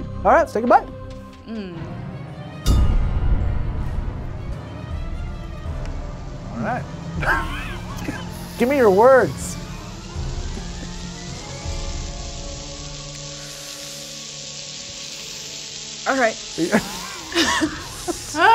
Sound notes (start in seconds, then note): 2.5 tense music; 7.2 laughs; 9.9 food sizzling; 9.9 tense music; 16.6 both laugh